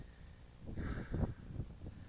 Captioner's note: phew